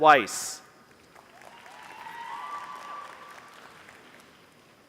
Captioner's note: applause